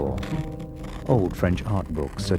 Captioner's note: paper tearing